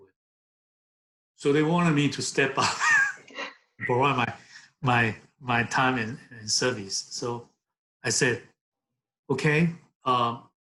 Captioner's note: laughs